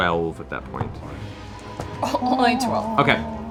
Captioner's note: scoffs